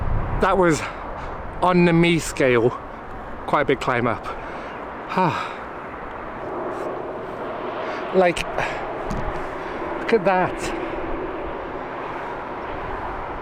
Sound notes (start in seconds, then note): 5.1 sigh